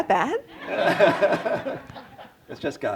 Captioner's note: laughter